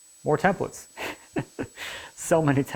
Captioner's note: laughing